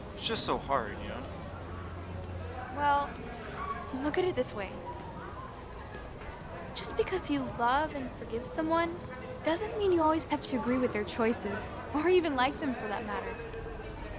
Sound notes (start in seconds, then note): none